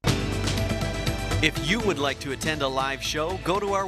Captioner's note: voiceover